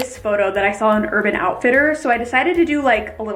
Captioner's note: mouse clicks